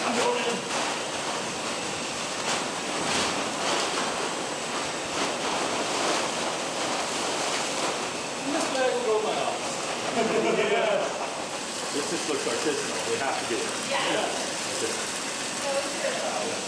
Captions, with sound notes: (laughing) - This just looks artisanal, we have to do it.